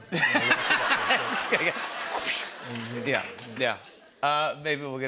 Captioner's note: laughter